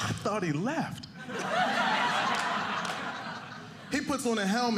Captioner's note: audience laughing